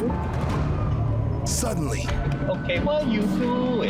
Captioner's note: none